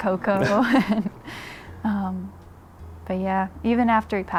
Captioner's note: Carl and Harmony laughing